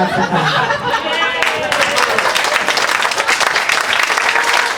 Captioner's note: audience claps